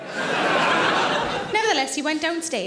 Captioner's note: audience laughs